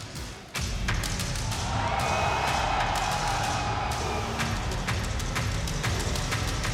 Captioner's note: dramatic music; audience cheering